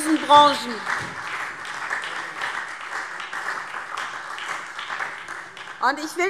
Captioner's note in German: Beifall SPD und Freie Demokraten